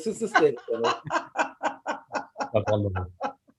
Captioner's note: laughing